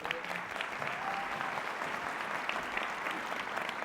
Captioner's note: applause